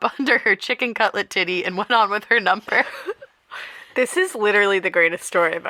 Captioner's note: laughter